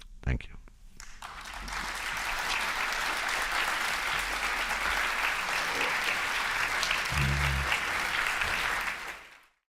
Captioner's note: audience applause